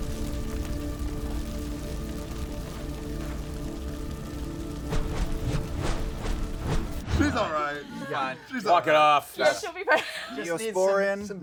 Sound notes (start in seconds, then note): 0.0 fire continues crackling; 4.9 graphics whooshing